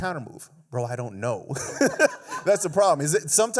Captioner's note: laughs